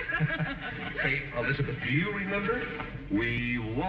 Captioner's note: laughing